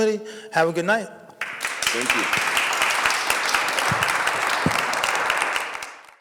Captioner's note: audience clapping